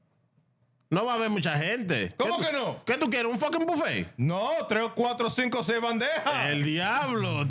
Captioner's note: speaking In Foreign Language